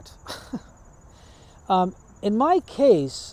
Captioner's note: chuckles